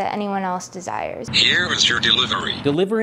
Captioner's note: tablet Voice